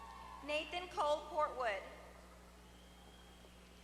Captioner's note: applause